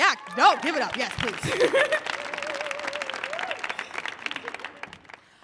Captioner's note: audience applauding